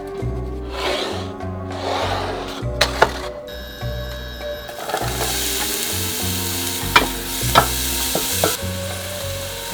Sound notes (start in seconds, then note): 3.8 onions sizzling in oil